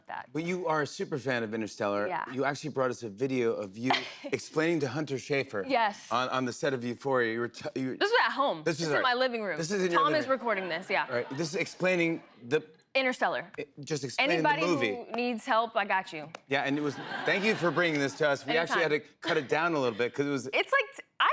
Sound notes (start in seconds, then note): 16.7 laughter